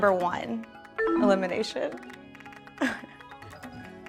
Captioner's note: descending chiming tone